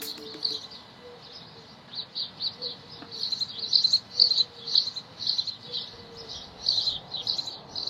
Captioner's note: birds